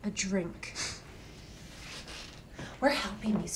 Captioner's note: Ben scoffs